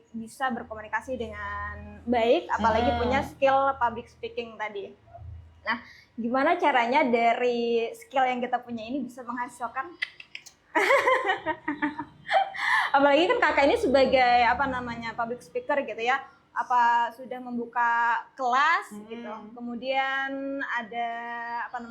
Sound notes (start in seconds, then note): 10.8 laughs